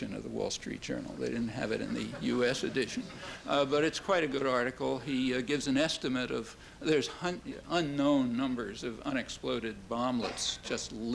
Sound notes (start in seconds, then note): 1.8 soft laughter